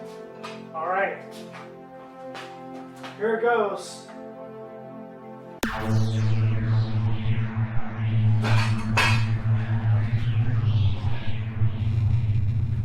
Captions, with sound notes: Alright, here it goes… (Laser noises)